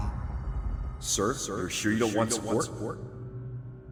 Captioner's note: as an echo from the past